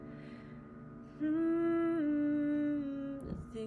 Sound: humming

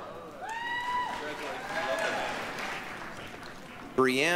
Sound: applause, cheering

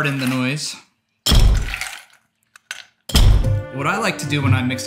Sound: ice slams

